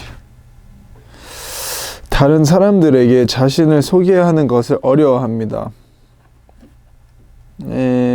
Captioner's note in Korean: 스읍